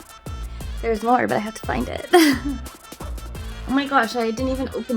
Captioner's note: laughs